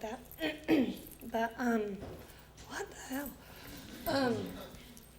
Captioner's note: coughs